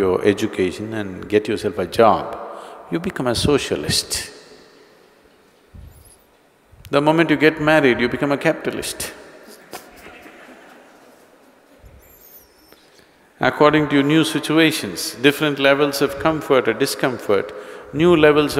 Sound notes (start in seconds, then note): 12.2 laughter